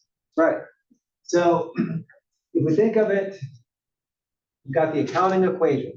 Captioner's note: cough